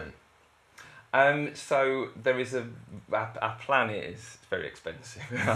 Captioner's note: laughter